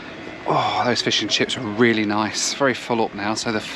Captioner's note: sighs